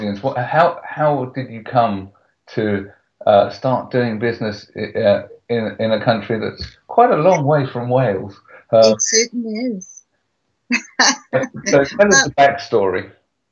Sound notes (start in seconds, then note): 10.8 laughs